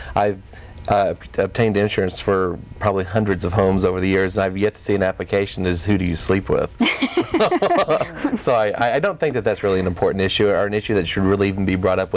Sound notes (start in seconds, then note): 6.8 laughing